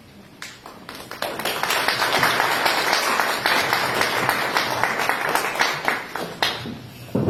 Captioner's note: applause